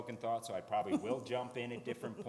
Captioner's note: laughs